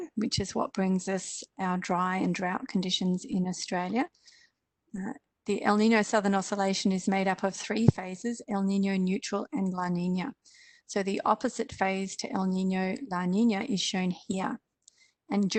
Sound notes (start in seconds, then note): none